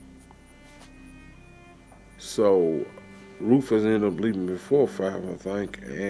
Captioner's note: laughs